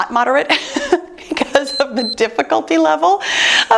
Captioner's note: chuckles; timer beeps